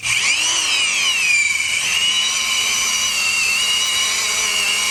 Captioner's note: dremel tool buzzes